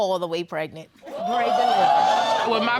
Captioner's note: audience exclaims